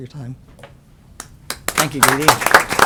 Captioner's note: applause